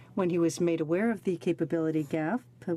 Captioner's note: speaking in french